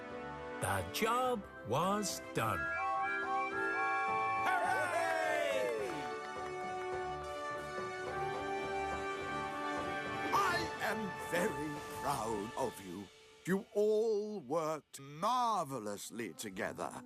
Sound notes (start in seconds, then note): 2.3 engines Toot; 4.4 cheering